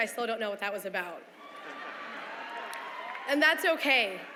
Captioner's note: laughter